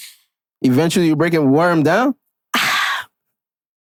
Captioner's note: sighs